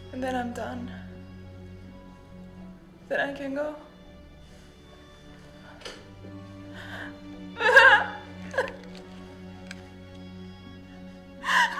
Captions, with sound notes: And then I'm done. Then I can go. (Kima crying)